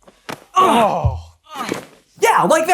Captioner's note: mutual groans of pain